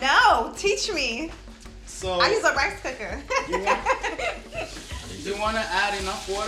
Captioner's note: laughs